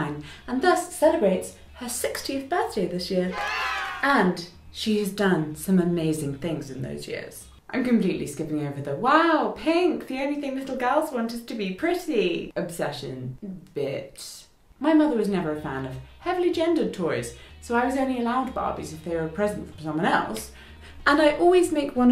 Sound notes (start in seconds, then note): 3.3 cheers